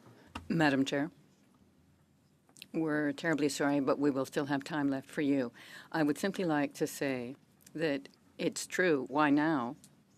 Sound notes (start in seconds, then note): 6.3 speaking French